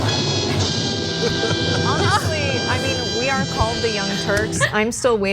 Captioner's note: laugh